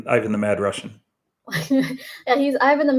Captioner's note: chuckles